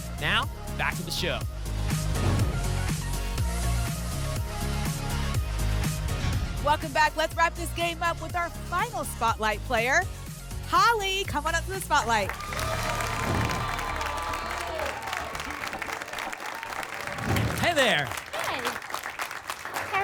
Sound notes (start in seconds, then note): 1.8 whoosh; 15.0 applause and cheering